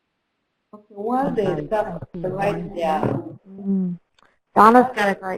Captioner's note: electronic interference